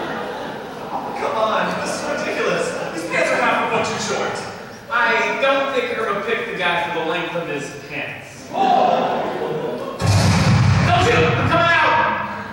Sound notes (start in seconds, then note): 10.0 gunshot